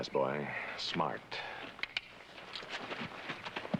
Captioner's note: clicks tongue